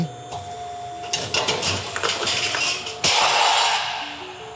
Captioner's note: machine whirring